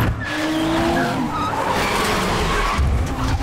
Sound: tires screeching

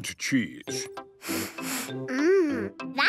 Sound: sniffs

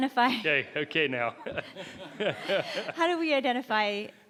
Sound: member laughs

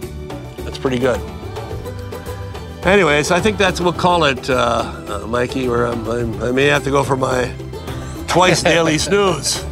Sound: laughs

